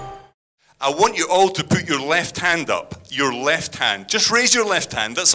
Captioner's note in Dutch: in het engels